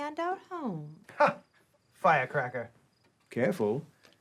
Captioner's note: laughs